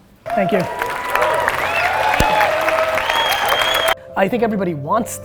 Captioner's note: applause